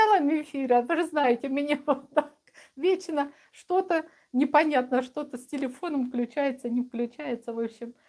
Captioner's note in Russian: смех